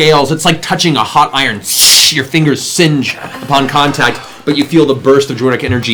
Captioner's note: sizzles